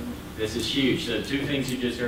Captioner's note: voiceover